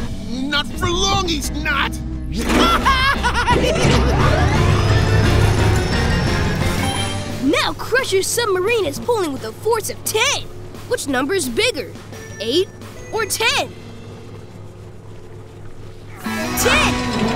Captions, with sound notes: Not for long he's not! [evil laugh] Now Crusher's submarine is pulling with the force of ten. Which number is bigger, eight or ten? Ten!